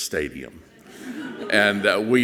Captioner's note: audience chuckles softly